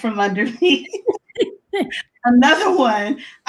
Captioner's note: laughs